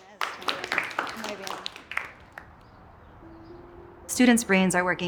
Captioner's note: students clapping